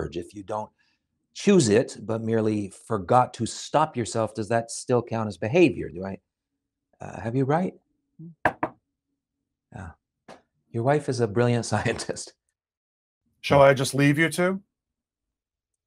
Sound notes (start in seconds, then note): 8.4 knocks on table